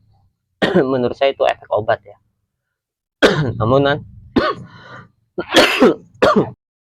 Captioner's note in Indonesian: batuk; berdehem